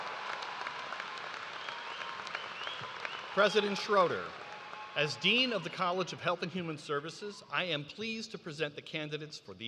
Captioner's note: cheers and applause